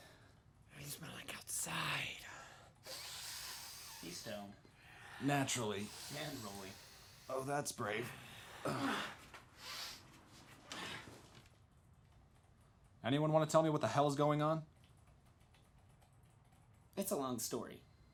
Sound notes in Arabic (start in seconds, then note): 2.3 يشتم